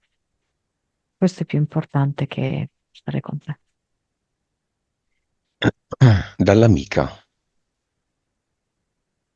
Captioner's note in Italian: schiarire la voce; tosse